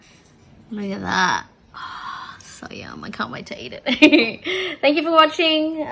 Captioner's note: giggles